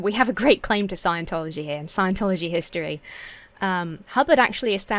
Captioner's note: none